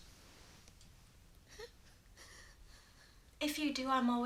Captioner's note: Edith sobbing